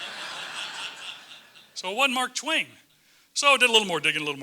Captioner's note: laugh